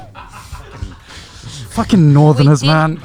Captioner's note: camera Man laughing